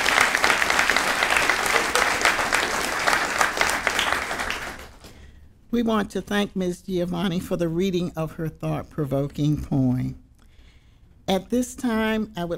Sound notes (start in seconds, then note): 0.0 applause